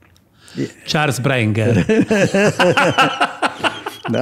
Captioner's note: laughing